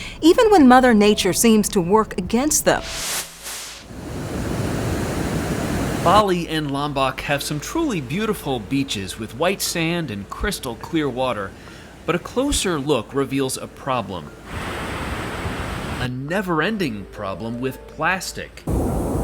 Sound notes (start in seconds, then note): 2.7 air whooshing